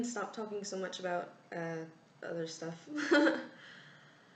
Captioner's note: laugh